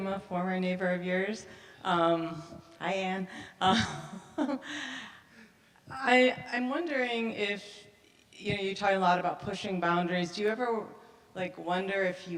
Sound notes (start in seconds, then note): 4.1 chuckles